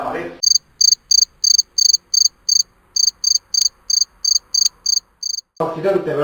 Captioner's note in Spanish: Se oye un grillo